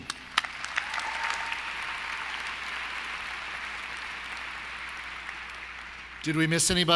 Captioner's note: applause